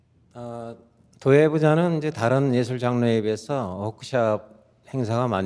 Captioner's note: speaking in Korean